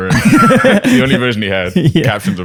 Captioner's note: laughter